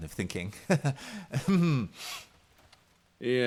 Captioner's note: nervous laugh